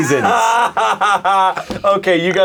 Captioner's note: laughing